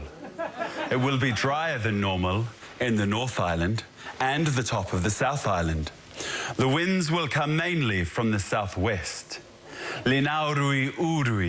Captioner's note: speaking elvish